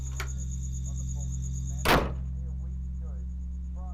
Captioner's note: door slams